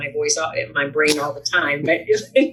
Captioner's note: laughs